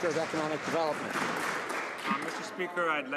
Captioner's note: some Applause